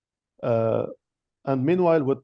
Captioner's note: speaking in French